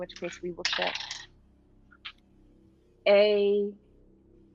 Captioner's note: dice clacking